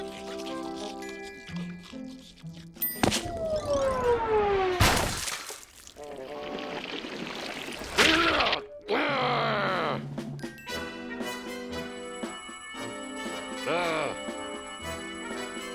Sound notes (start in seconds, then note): 4.7 splat; 8.8 grunts; 9.0 growling; 13.7 grunts